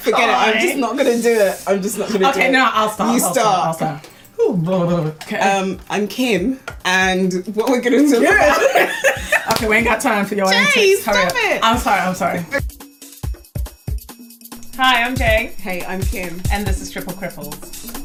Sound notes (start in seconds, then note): 8.2 laugh